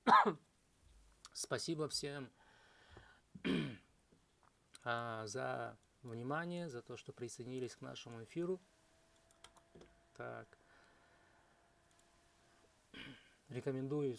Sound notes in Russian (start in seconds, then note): 0.0 кашель; 3.4 откашливается